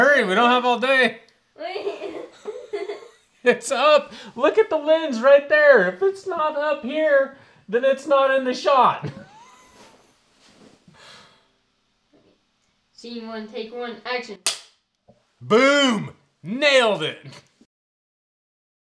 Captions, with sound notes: Come on, hurry we don't have all day! - Wait! (laughs) - It's up. Look at the lens right there! If it's not up here, then it's not in the shot! (laughs) - Scene one, take one, action! (clapperboard claps) - Boom! Nailed it!